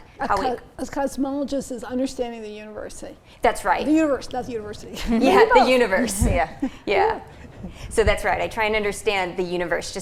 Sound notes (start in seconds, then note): 5.1 laughing